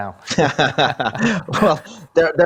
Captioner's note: laughing